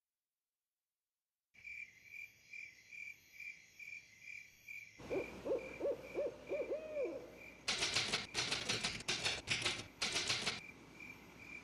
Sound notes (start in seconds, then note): 2.2 crickets chirping; 5.0 owl hooting